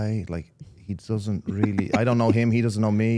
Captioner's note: Stephanie laughing